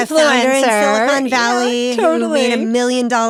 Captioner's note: laughs